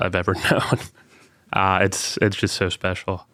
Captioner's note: chuckling